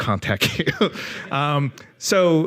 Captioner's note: chuckles